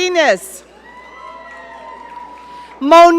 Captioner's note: audience cheering